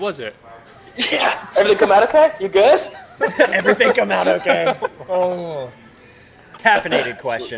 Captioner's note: laughter; laughter